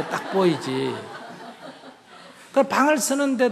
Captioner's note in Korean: 청중 웃음